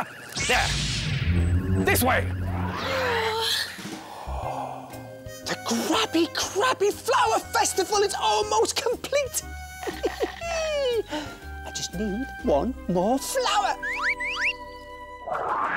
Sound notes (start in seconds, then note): 3.8 sigh